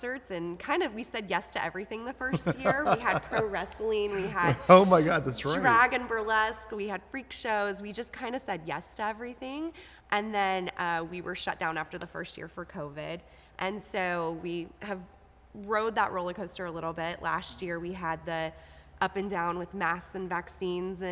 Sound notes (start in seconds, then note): 2.2 laughing